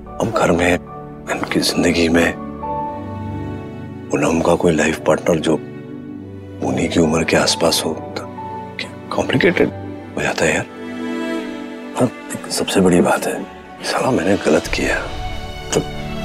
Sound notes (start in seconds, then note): none